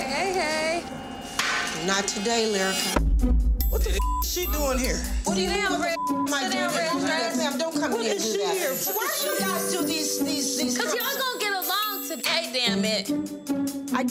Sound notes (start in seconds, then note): 5.7 beep